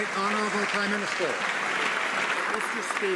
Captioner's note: some Applause